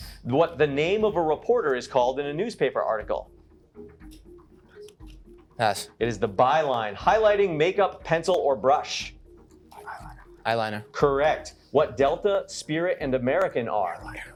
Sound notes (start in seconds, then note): 9.7 whispering; 14.1 whispering